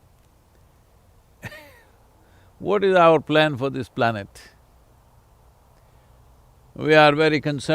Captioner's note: laughs